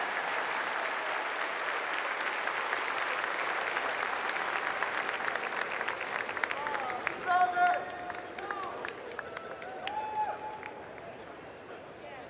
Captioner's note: applause